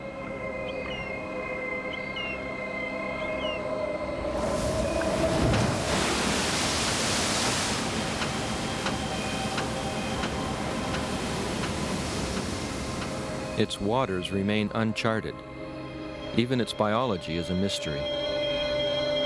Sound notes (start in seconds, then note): 1.8 bird chirping; 4.7 waves splashing